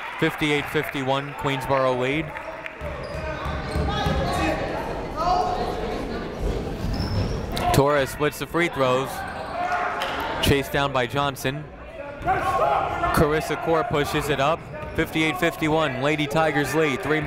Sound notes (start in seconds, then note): 3.2 people shouting in the crowd